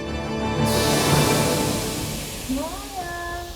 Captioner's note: exhaust hissing